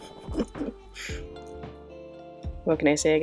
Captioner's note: heh-heh-hh